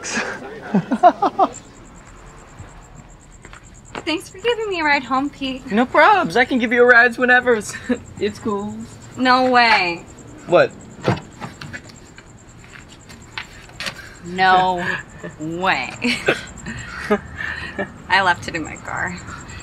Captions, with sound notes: [laughs nervously] - Thanks for giving me a ride home, Pete. - No probs, I can give you a rides whenevers. [chuckles] It's cool. - No way. - What? - No way. [both chuckle] I left it in my car.